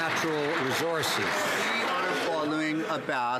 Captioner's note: some Applause